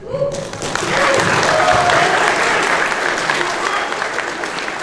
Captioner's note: applause